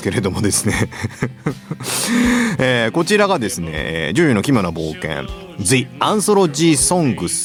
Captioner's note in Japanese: 笑い